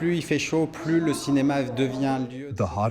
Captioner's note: through translator